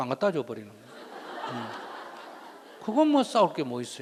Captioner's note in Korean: 청중웃음